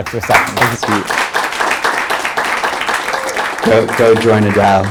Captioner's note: applause